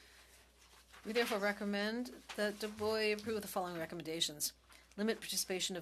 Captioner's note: speaking French